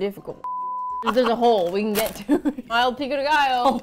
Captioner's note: laughs